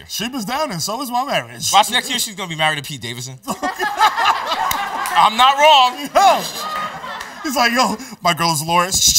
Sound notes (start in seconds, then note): 3.4 laughter